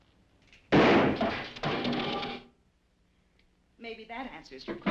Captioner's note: gun firing